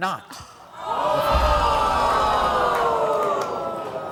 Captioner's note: audience gasping